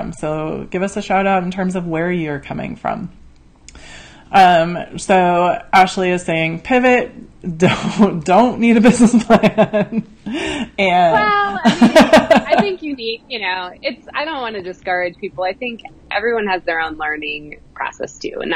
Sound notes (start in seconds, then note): 10.2 laughs